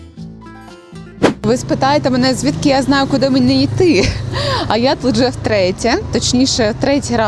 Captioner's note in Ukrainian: сміх